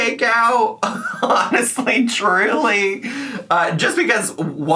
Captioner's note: laughs